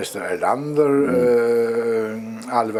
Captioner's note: laugh